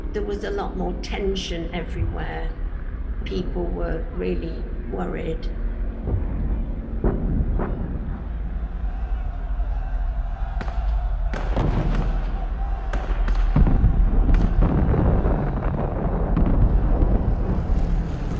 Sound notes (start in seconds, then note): 8.1 people shouting; 8.9 guns firing; 14.5 bombs exploding; 18.1 airplane engines whirring